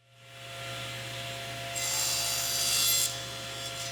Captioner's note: saw whirring